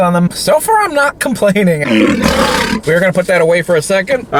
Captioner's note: lion roars